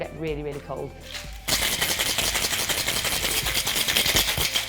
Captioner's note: ice shaking